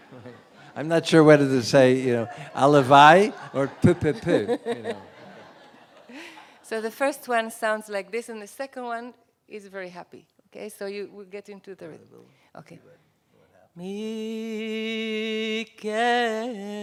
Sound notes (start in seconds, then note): 0.0 laughter; 2.5 non-english; 5.6 laughs; 13.7 non-english singing